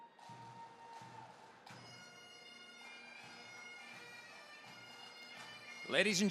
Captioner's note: scattered cheering; bagpipe music